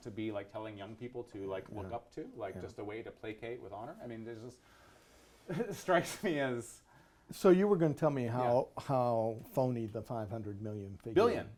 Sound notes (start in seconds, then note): 5.5 laughs